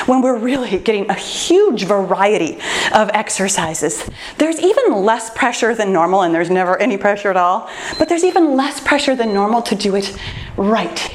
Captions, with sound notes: when we're really getting a huge variety of exercises, there's even less pressure than normal, and there's never any pressure at all, (timer beeps) but there's even less pressure than normal to do it right.